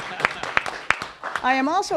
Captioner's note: applause